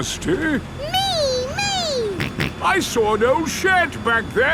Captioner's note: snorts